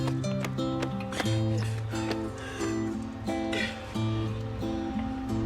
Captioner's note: breathing heavily